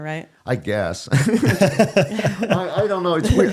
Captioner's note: both laughing